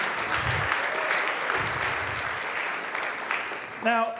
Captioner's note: applause